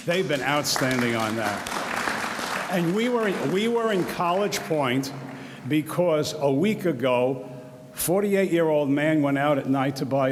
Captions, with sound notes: They've been outstanding on that. (audience applauds) We were in College Point because a week ago 48 year old man went out at night to buy